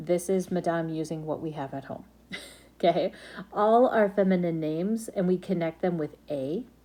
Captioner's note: laughs...okay?